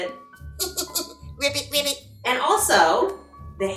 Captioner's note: laughs